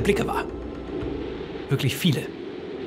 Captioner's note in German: Wind bläst